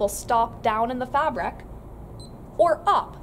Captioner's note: beeping noise